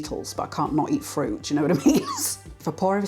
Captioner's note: laugh